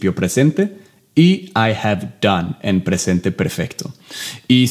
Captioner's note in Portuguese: Inglês